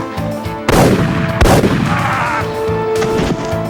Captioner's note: yell